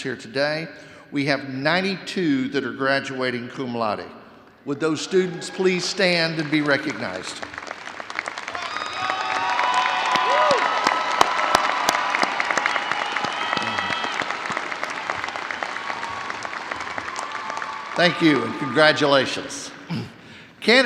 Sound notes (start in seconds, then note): 8.0 audience cheering and applauding